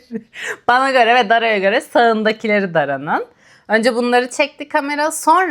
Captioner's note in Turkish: kahkaha